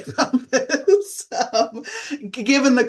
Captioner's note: laughter